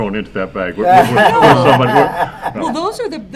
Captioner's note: laughter